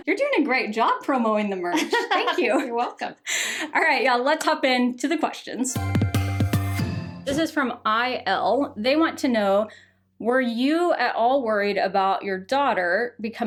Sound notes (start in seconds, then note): 1.4 laughs; 5.6 upbeat music